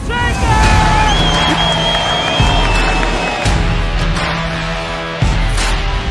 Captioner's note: crowd cheering; upbeat music